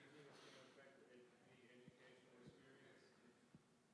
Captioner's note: faintly speaking